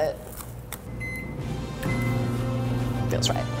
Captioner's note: beeping